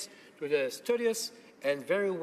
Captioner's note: speaking French